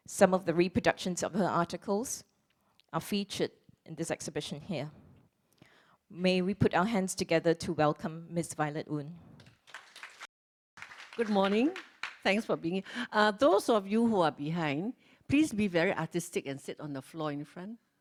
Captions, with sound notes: Some of the reproductions of her articles are featured in this exhibition here. May we put our hands together to welcome Ms Violet Oon. [Applause] Good morning, thanks for being here. Those of you who are behind, please be very artistic and sit on the floor in front.